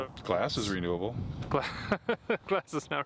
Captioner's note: Gülme